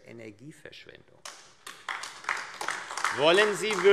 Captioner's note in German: Beifall AfD